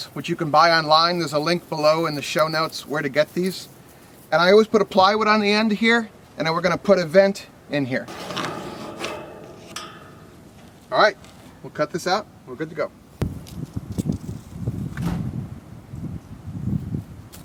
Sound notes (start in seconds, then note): 13.5 wind rustling